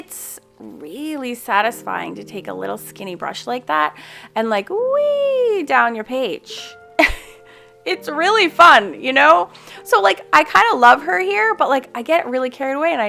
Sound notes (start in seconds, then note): 7.0 chuckles